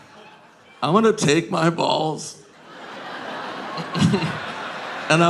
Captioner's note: audience laughing